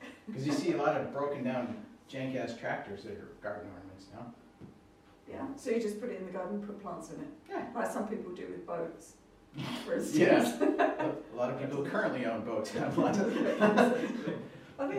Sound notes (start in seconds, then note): 10.2 laughter